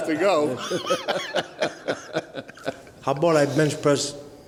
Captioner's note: laugh